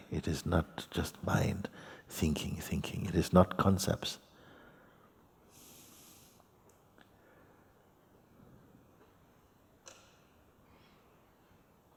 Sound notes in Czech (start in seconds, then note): 5.9 Ticho